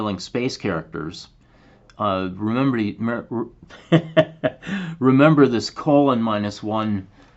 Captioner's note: laughter